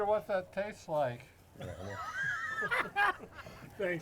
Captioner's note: laughs